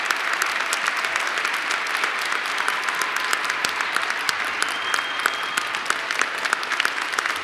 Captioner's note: applause